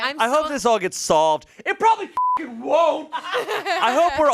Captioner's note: beep